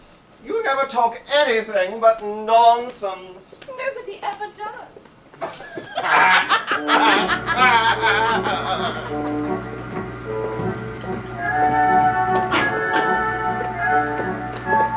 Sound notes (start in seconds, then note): 5.4 both laugh; 11.3 bright music